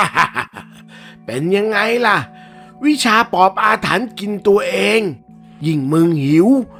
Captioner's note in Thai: เสียงหัวเราะ